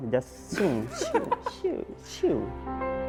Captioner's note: whoosh whoosh